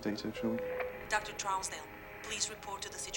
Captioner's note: woman on PA